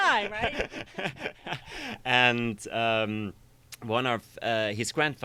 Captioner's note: laughs